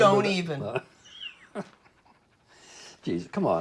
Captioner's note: laughing